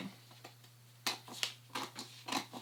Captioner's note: cutting